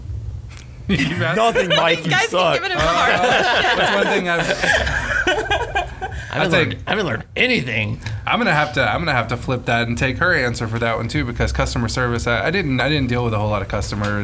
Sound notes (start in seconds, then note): 4.7 laughing